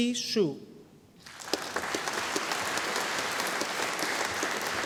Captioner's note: audience applauding